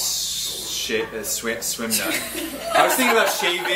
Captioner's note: group laughs